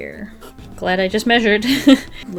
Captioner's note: laughs